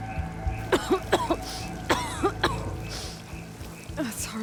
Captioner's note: Aloy coughing